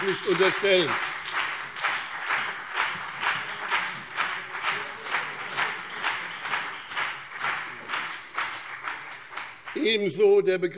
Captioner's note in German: Beifall BÜNDNIS 90/DIE GRÜNEN und CDU